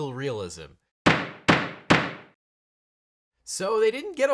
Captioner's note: gavel banging